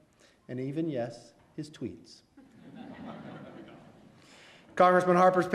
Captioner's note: laughs